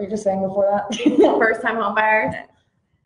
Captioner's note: laughs